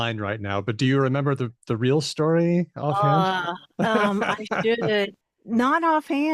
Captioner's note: laughs